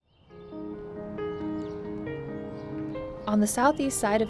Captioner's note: birds chirping; gentle music